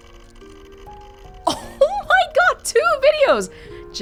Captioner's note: chuckles